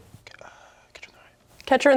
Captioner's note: whispering